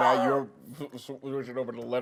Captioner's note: laughing